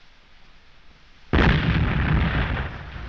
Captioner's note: explosion